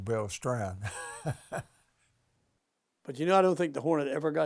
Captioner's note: chuckling